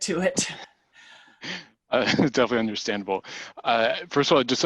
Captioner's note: laugh